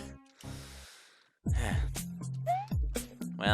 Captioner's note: sigh